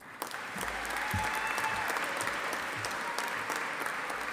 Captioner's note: audience applauding